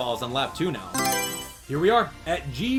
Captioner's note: Mario Selection Sound